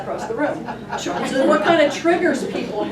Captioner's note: class laughs